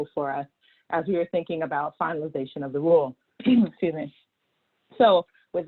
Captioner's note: cough